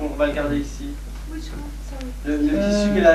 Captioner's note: in French: The cotton one, the heaviest roll